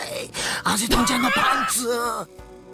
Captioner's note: chuckles